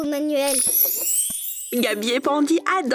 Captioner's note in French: bruit de baguette magique